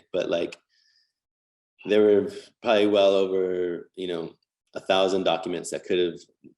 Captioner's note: none